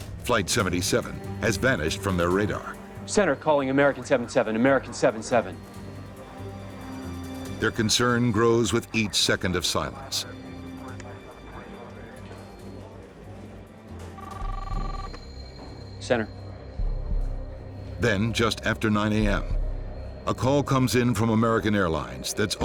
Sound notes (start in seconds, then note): 0.3 voiceover; 7.7 voiceover; 14.1 phone rings; 18.1 voiceover